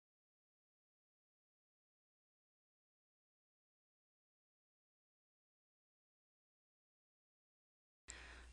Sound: silence

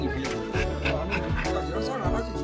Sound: panting

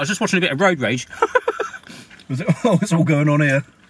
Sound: laughs

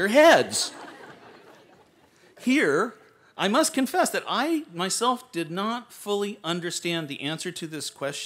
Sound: laughter

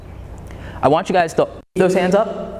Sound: interruption in mic

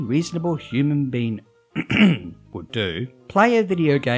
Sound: ahem

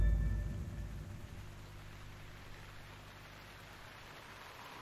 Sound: rain pouring

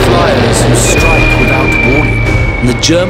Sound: bombs whistling

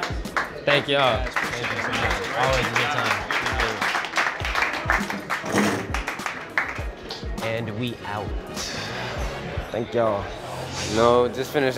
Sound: clapping

